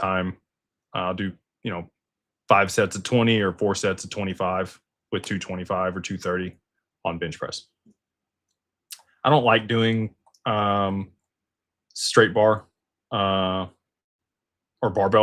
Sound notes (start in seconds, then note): none